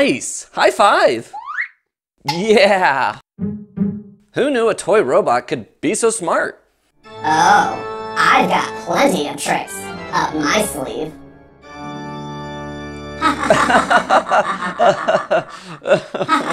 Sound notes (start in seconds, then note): 13.2 nervous Laughter